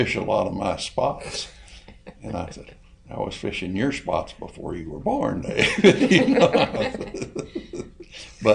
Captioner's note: laughs; all laugh